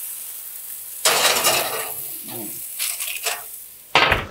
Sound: metal clanking

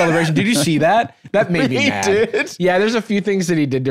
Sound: laughing

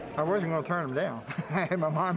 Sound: laughter

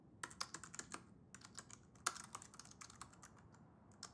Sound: keyboard clicking

